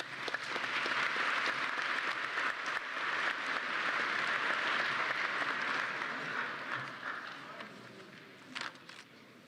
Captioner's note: applause